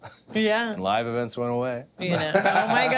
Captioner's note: laugh